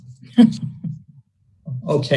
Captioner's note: laughs